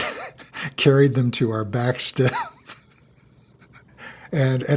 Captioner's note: laughs